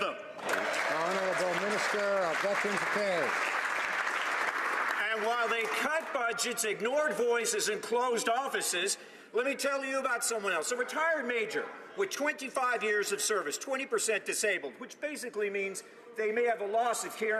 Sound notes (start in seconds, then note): 3.9 some Applause